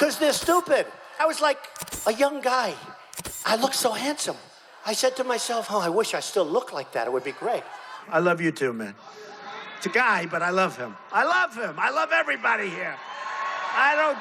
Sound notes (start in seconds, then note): 9.0 crowd cheering